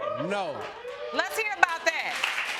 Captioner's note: audience cheering